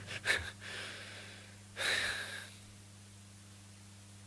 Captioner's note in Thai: เสียงถอนหายใจ